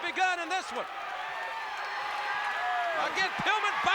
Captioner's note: applause